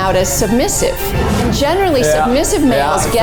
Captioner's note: air whooshing